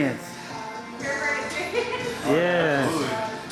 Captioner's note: laughs